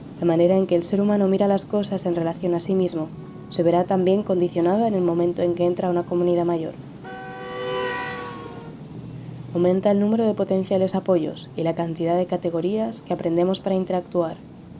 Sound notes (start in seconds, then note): 7.0 horn